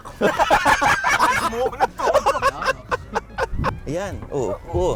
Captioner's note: laughing